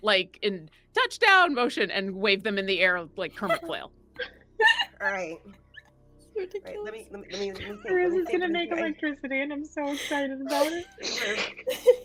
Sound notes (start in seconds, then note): 4.6 giggling